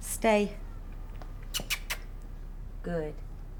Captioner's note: makes kissing sound